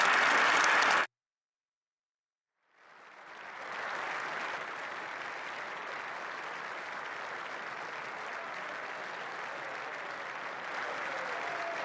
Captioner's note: applause